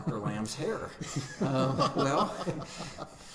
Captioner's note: laughing